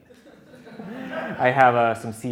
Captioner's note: audience laughing